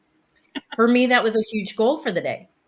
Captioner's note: laughs